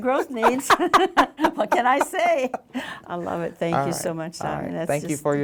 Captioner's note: both laugh